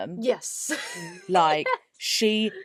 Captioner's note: laughs